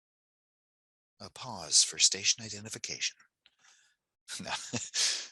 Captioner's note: laughs